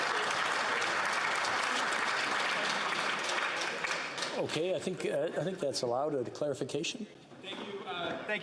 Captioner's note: applause